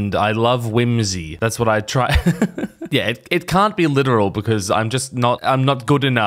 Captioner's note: giggles gayly